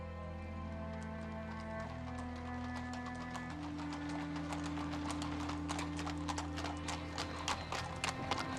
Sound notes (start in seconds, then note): 0.6 hooves clopping; 2.1 somber music